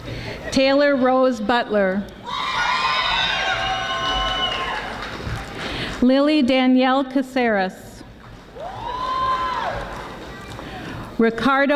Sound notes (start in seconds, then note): 2.2 audience screaming; 9.2 audience applauding